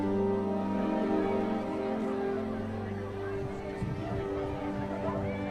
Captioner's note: gentle instrumental music; people chattering